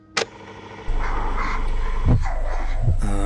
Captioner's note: tape recorder starting; difficult breathing